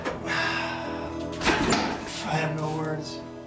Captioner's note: sighs